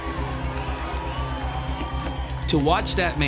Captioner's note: crowd murmuring; crowd cheering